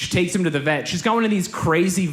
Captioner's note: none